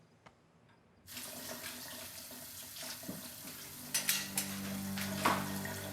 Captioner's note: water splashing; foreboding orchestral music